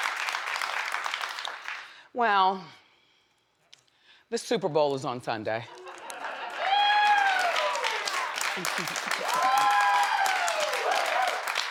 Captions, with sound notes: Well. The Superbowl is on Sunday. (audience laughs and claps)